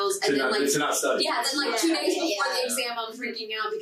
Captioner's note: group chattering